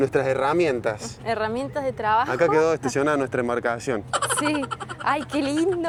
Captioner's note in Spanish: risas